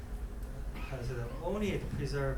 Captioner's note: coughing